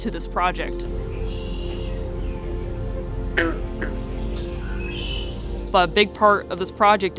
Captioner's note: bird calls, frog calls